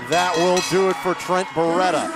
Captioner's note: bell ringing